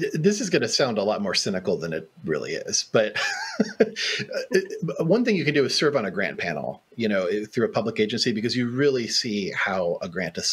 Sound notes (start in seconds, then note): 3.1 laughs